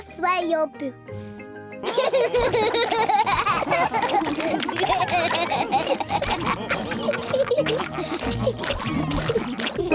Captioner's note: all laughing